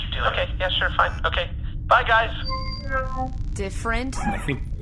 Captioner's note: transmission-end noise